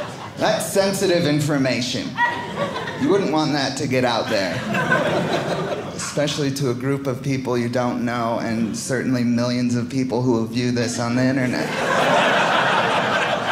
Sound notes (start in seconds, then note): 11.4 audience laughing